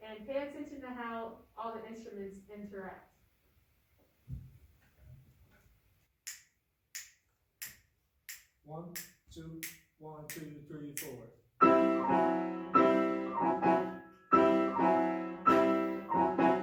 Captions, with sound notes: and pay attention to how all the instruments interact. (fingers snap) - One, two, one, two, three, four. (energetic piano music)